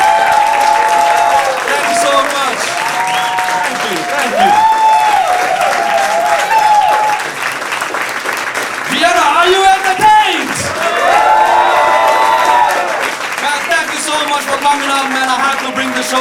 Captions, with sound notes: thank you so much. Thank you, thank you. (audience applauding) Vienna, are you entertained? (audience applauding) Thank you so much for coming out, man, I had to bring the